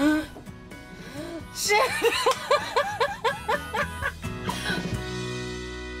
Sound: moderate tempo music playing; laughing

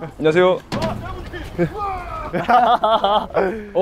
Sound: cycling at full speed while cheering

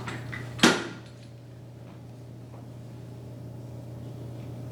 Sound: flags clicking into place

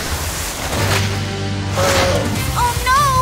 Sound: grunting

